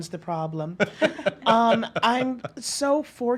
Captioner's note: laughs